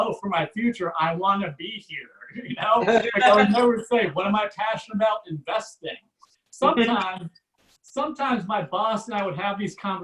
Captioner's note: audience Laughs